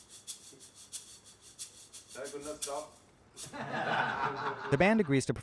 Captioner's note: laughter